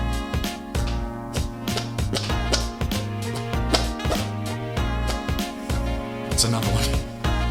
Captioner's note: fart sounds